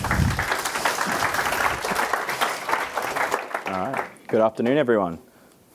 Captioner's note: audience applauding